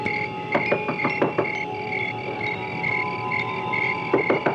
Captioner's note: Senator knocks; Senator knocks